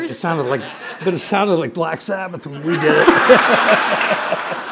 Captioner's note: laughter